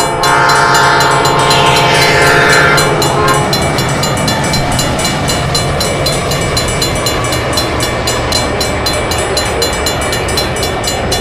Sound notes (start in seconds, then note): 3.9 train bell ringing, engines roaring; 5.9 train passing, crossing bells ringing